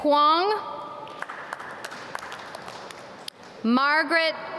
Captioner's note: audience clap